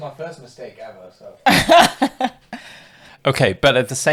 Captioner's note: laughs